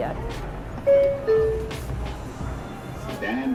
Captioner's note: bell chimes